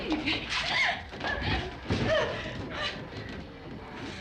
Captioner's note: crying